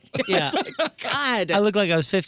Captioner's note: laughing